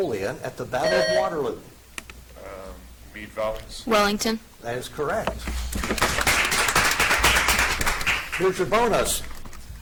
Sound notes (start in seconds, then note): 0.8 buzzer chimes; 5.8 audience applauds